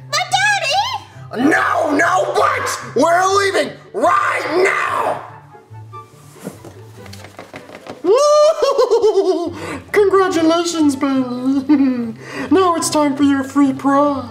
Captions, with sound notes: - But daddy! - No, no but. We're leaving right now! (laughs) - Congratulations Bailey. (chuckles) Now it's time for your free prize.